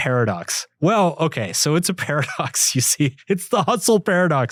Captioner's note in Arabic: يضحك